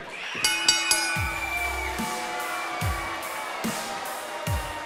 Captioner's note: bell rings